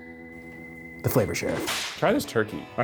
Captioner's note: whip cracks